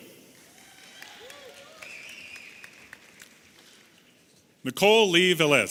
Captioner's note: audience applauding and cheering